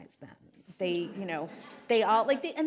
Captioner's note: audience laughing